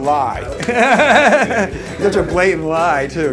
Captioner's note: laughs